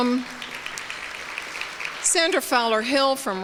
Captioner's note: applause